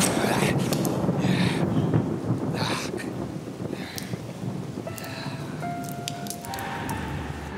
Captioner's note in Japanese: 雷鳴; レゴシの荒い息